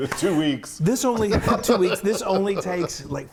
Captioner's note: laughing